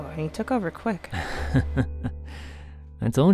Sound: light chuckle

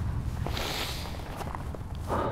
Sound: inhales sharply

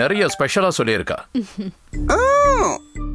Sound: chuckles

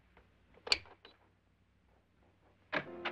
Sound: door closes; lock clicks; door opens

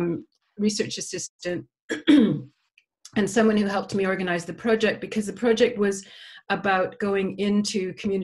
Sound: cough

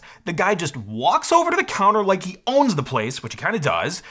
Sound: none

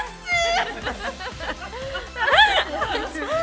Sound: laughing

